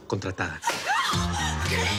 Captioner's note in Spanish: Grito ahogado